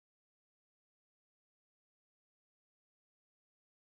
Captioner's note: none